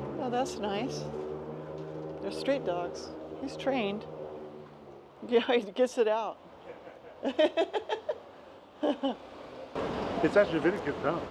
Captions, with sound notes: Oh, that's nice. They're street dogs. He's trained. Yeah, he gets it out. [laughs] It's actually a very cute town.